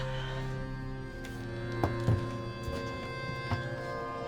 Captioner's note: suspenseful music continues; Claire sighs